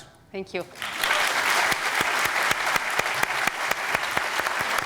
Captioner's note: applause